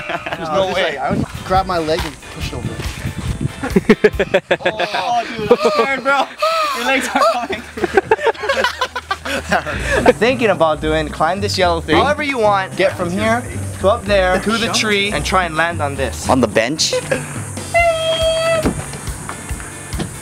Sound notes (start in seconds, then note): 3.6 laughs; 7.8 laughter